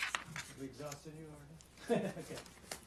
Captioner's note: laughter